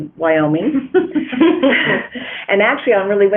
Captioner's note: chuckling